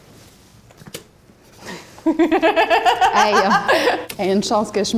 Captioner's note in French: rires